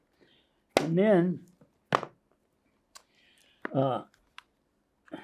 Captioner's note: objects knocking